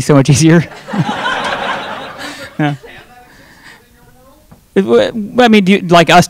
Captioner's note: audience laughing; laughing